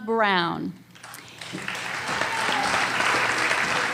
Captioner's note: applause